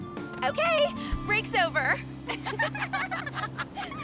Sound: all giggle

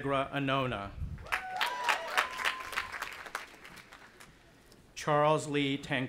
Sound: audience applauding and cheering

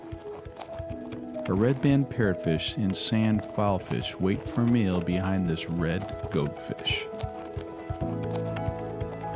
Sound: sand digging

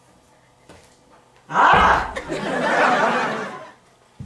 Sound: ahhhhhhhhhhh!!!!!!!!!

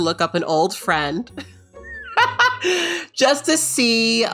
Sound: laughing

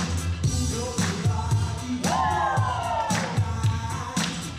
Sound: group cheer

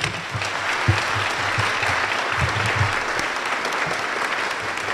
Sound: applause

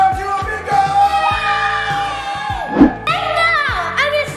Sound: everyone cheers

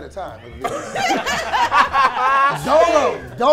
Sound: group laughs

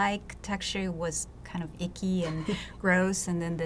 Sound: laughs

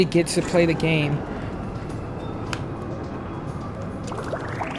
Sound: air liner passing; bubbling

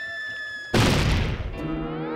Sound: crash

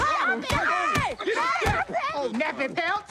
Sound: all screaming

